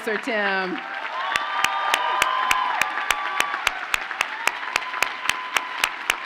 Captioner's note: audience cheers and applauds